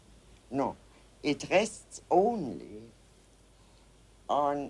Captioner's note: in English